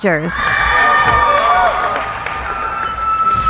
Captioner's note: cheering